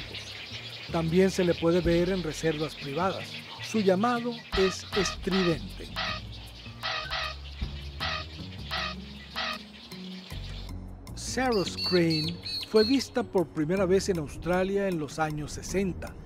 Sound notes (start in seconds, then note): 6.5 strident call